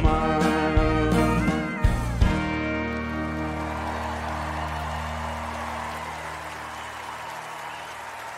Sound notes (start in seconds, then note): 1.8 cheers and applause